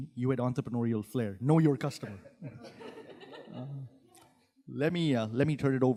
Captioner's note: audience laughing